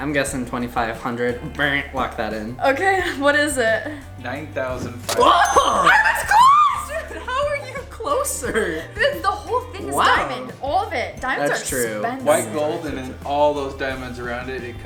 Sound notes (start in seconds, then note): 4.4 male Voice; 5.2 laughs